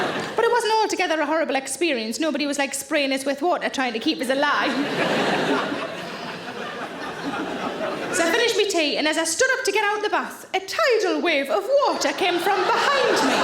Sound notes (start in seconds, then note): 4.2 audience laughing